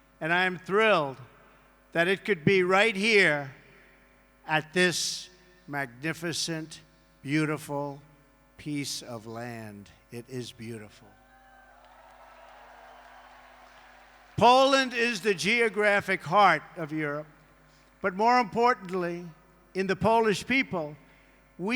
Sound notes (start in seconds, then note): 11.5 applause